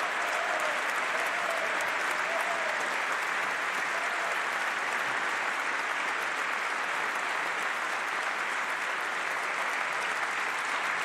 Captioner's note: applause